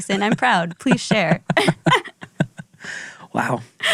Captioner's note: laughs